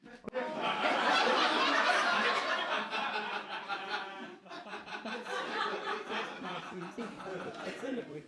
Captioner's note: audience laughs